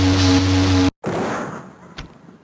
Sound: zapping sfx; explosion

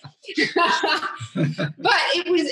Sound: laughing

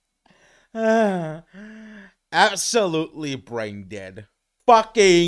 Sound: laughs; sigh

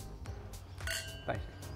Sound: glasses clink

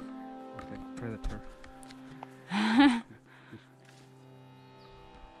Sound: laughs

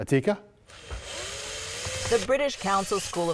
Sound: drill sound

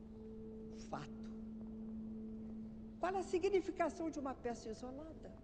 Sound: speaking in foreign language

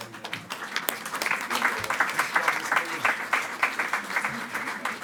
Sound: attendees clapping

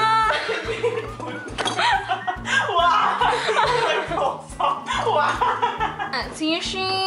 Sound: laughter

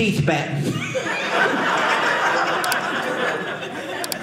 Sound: audience laughing

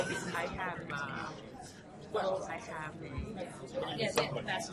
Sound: voiceover

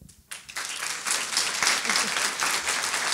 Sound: applause

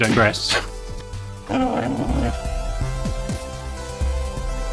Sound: puppy groans; retro song plays

